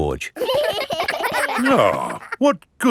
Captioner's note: giggling